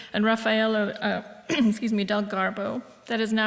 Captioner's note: clears throat